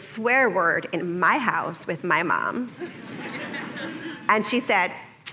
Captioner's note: laughter